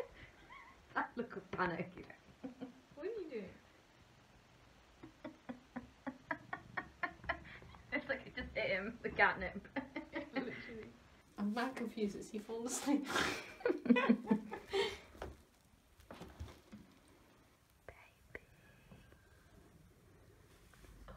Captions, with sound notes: [laughing] That look of panic! What are you doing? [laughing] [purring] It looks like it just hit him – the catnip. /Literally/ /I’m mad confused, has he fallen asleep?/ [more laughing] /Baby, baby/